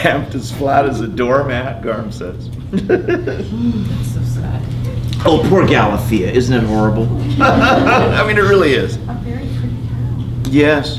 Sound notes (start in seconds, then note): 2.7 laughs; 7.0 laughter